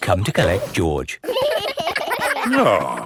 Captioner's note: giggling